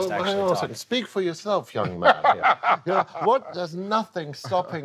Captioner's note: laughing